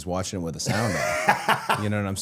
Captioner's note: Matt laughs